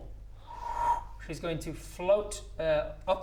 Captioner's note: whoo